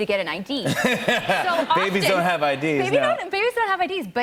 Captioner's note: laughter